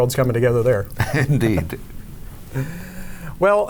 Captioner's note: laughs